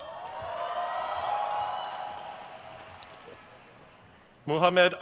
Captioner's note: crowd cheers